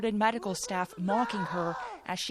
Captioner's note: yelling